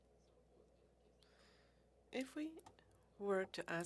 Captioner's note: speaking French